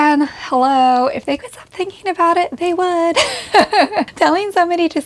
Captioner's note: laughs